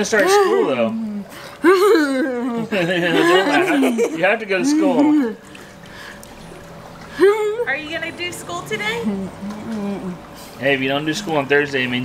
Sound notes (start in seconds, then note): 1.6 groaning; 7.1 groaning